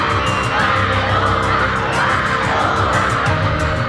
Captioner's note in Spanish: aclamando